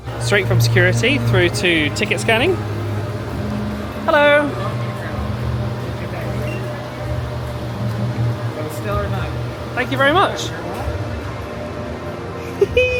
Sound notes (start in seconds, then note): 6.4 scanner beeping